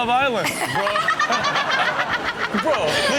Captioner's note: Chanel and audience laughing